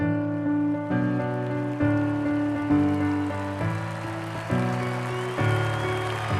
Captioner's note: applause